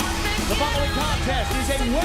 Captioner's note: bell